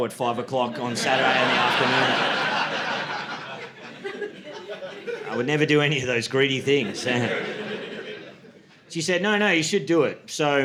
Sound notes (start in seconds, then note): 2.8 audience laughing; 7.3 audience laughing